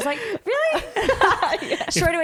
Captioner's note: laughs